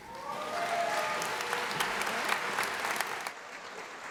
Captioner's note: applause